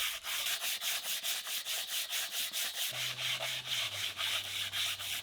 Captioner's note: sander shuffling